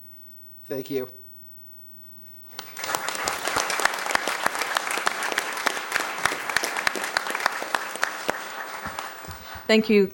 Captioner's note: applause